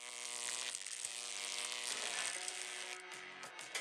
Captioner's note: electricity crackles